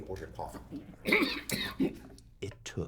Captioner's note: coughing